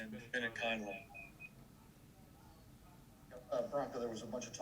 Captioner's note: beeping